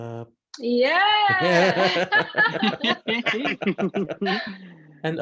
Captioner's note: laughing